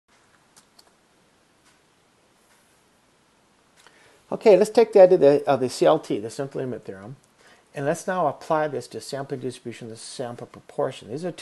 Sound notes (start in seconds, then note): 4.3 clicking; 5.4 background clicking